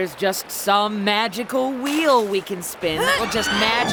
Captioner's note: Becky grunts